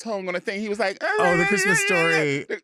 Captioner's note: babbling